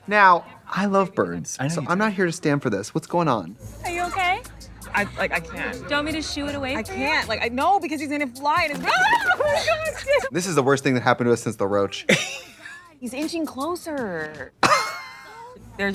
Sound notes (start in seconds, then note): 8.6 wings flapping; 12.0 Katya laughs; 14.6 Trixie laughs